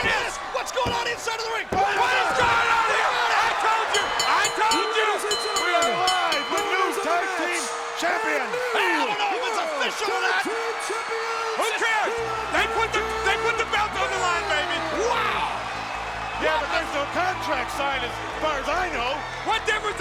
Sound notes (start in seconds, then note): 5.1 crowd cheering; 6.7 bell ringing